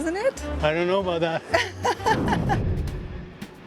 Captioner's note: laughs